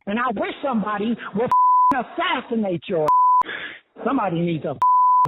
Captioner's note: beep; beep